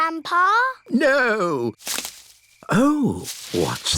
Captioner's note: rustling